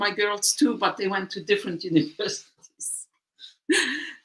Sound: laughter

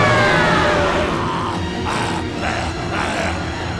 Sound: grunting; screaming

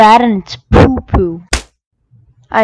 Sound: slap

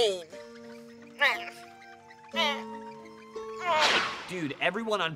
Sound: groaning

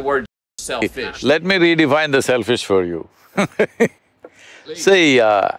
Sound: laughs

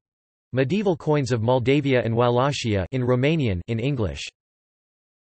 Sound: in Romanian

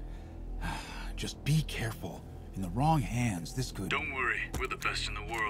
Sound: Thở dài

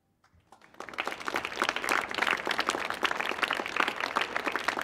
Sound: audience claps

